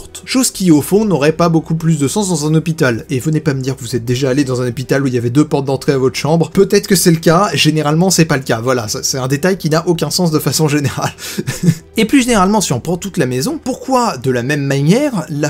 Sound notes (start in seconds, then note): 11.5 laughs